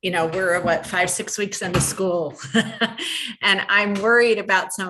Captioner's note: laughs